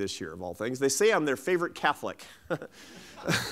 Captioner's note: laughs